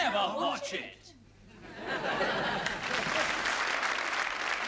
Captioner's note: laughter and applause